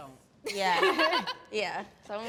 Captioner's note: laugh